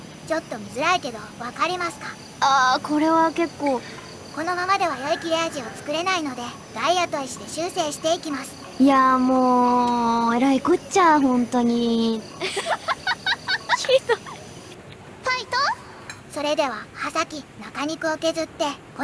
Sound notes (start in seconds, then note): 12.4 laughter